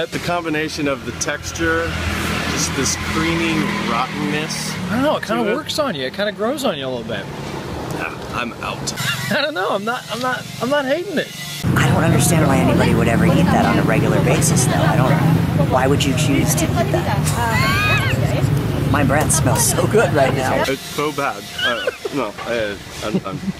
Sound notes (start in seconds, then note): 17.5 laughs; 21.5 laughs